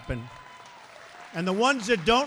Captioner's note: applause